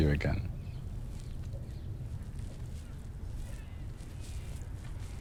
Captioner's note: birds calling